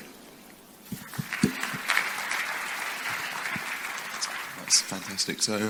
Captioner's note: crowd applauding